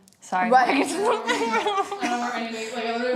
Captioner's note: laughs